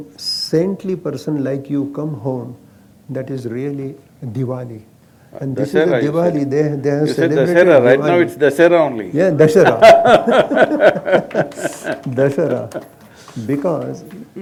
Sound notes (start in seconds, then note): 9.7 laughter/Applause; 12.6 both Laugh